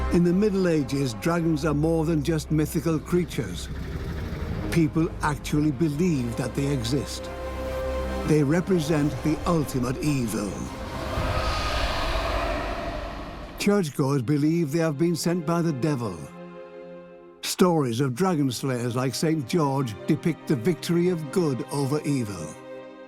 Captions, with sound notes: In the Middle Ages, dragons are more than just mythical creatures. People actually believe that they exist. They represent the ultimate evil. (dragon screeches) Churchgoers believe they have been sent by the devil. Stories of dragon slayers like St. George depict the victory of good over evil.